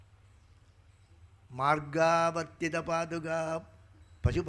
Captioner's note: speaking in Sanskrit